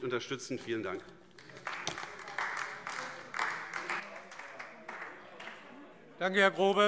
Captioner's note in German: Beifall AfD